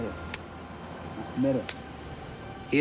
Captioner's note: speaking Maori